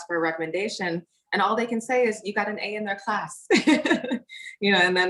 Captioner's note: laughs